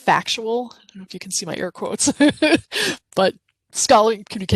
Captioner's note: chuckles